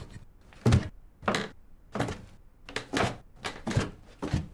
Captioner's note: stairs creaking